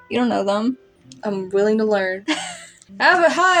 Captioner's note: laugh